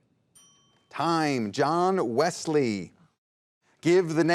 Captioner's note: ding